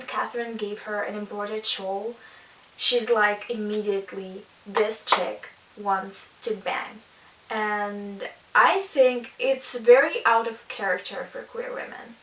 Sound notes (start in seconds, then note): 4.7 clap